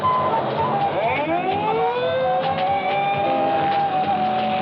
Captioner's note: siren blaring